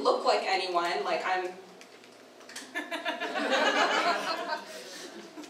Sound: audience laughter

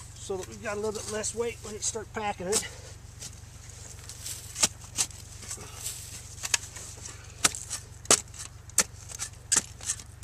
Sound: digging sound

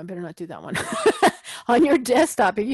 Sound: laugh

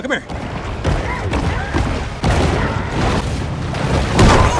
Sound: crashing

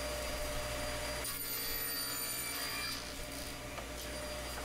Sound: saw buzzing

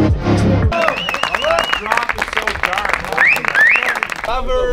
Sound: cheering

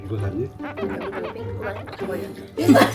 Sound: scratching nervously

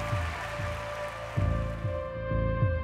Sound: applause

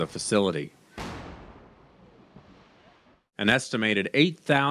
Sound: sound of explosion

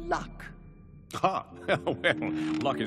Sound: chuckling

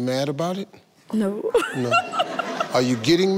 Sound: giggles

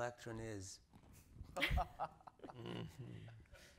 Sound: laughing

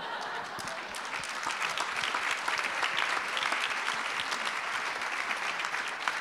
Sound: audience applause

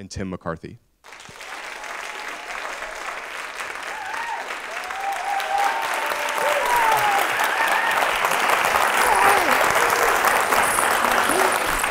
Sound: applause

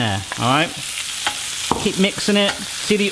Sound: pan sizzling

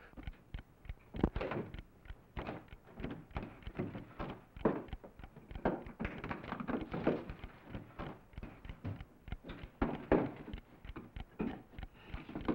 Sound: ticking

